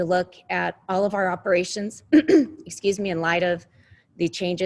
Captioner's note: clears throat